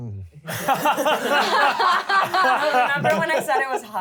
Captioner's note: laughter